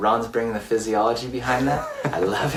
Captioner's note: laughs